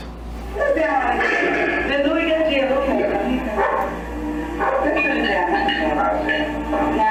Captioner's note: dog barking